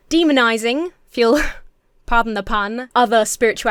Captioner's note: chuckles